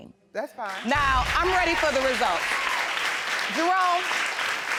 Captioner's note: audience applauds